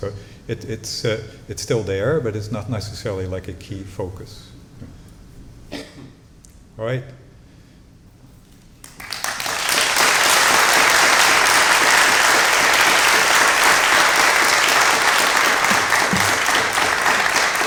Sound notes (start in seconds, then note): 8.8 applause